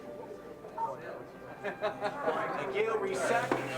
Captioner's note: laughing